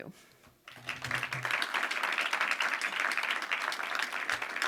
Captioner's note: audience applauding